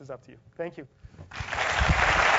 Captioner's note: applause